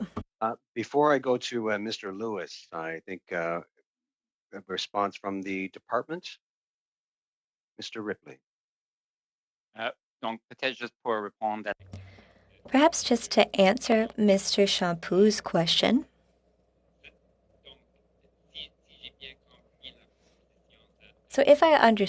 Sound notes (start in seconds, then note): 16.5 speaking French